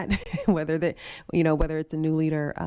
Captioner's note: chuckling